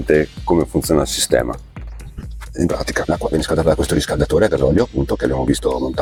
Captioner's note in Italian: schiarire la voce